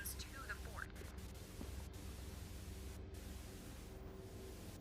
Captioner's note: static buzzing